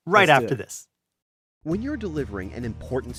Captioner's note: voiceover